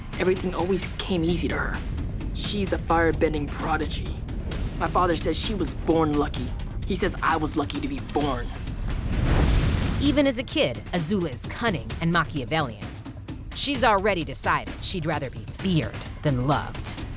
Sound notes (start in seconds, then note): 8.7 fire whooshing; 8.7 intense cinematic music